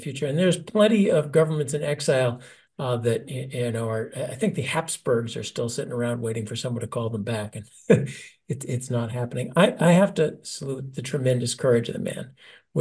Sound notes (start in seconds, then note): 7.8 laugh